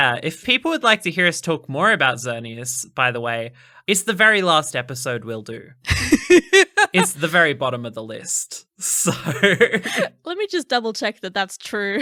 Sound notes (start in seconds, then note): 5.9 laughing